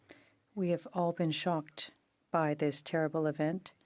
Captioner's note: speaking French